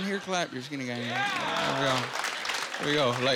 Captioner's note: applauding